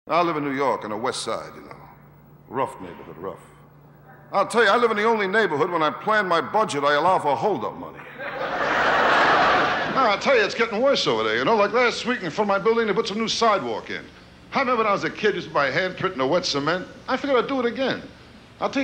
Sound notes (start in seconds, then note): 8.0 audience laughing